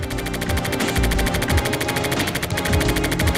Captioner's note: typewriter noise